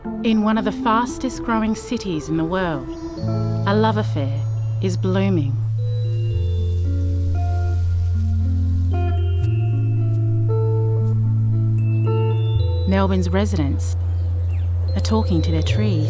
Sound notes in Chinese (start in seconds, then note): 5.6 虫鸣声